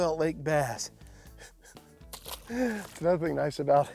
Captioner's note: chuckles